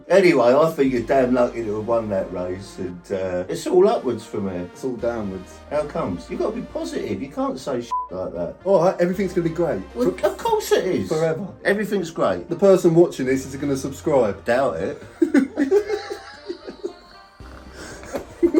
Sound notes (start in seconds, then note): 7.9 beep; 15.0 both laughing